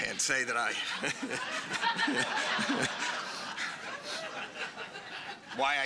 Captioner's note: laughter